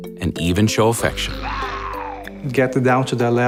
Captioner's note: growling